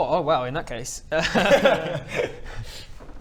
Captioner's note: laughs